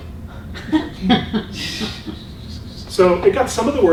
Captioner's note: laughing